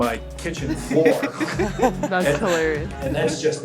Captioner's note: women laughing